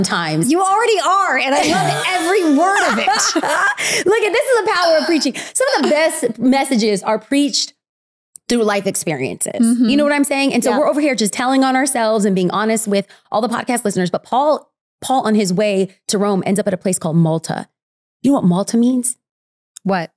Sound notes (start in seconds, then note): 1.5 laughing